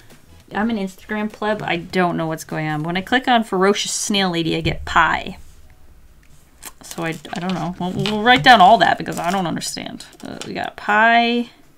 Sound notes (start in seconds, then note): none